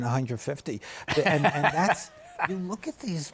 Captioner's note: laughs